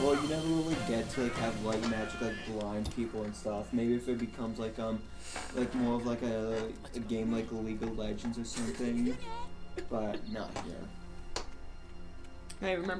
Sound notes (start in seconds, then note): 9.1 laughs again